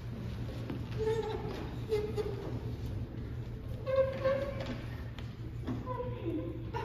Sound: rolling desk squeaks gracefully

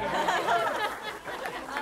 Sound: cheering; laughter; applause

